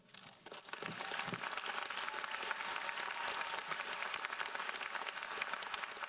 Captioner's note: audience cheers and applauds